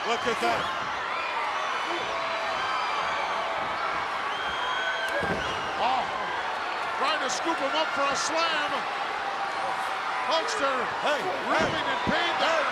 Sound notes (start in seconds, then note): 1.0 crowd yelling